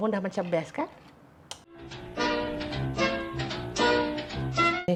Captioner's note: gravy being stirred